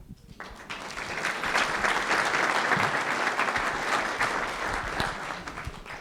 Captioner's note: applause